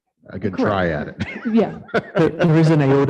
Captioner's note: laughs